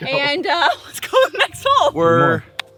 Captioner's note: laughs